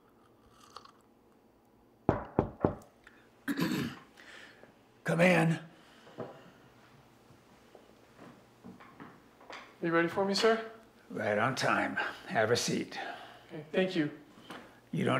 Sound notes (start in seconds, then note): 0.0 sipping tea; 2.1 knocking at door; 3.4 Josiah clears throat